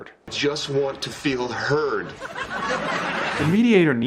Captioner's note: background laughter